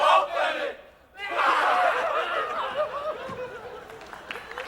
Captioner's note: Chamberlains cry; applause